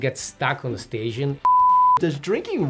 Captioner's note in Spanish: suena un pitido